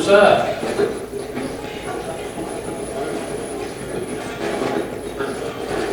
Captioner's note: radio channel changing